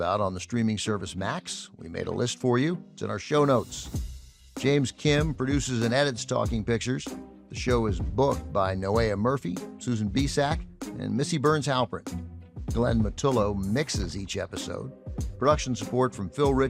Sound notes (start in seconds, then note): none